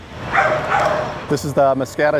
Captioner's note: dog barking